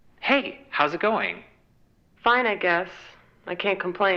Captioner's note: ghostly Voice